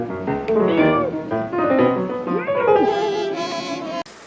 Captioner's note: illya meows